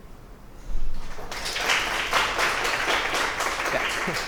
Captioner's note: applause